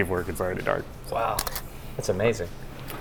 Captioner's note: shutter click